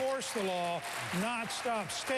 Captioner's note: applause